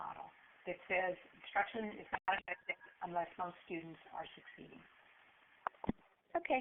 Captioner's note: static